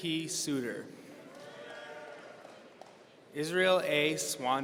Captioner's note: audience cheering